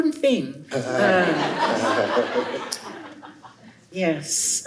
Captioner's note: laughter